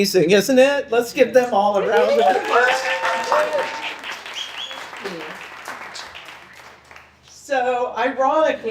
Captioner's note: people applaud